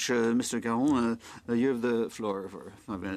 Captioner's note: speaking French